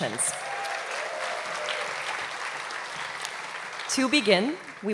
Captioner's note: applause